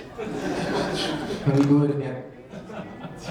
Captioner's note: audience laughing